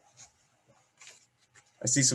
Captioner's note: silence